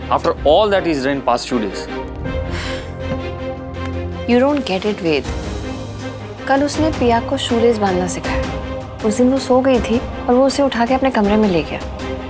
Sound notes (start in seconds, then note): 2.4 Tipsy exhales